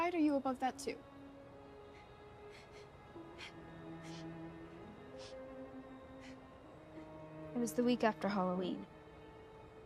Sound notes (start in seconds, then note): 4.0 Enid cries; 4.8 soft orchestral music